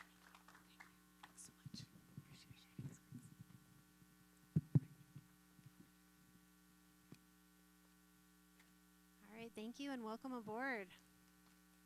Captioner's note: applause